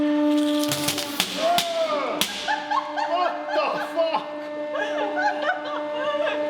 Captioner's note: laughter